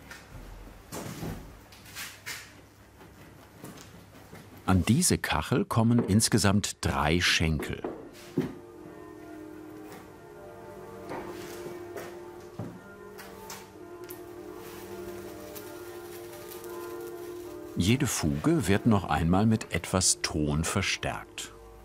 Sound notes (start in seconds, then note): 8.1 church bells ring; 14.0 scratching noise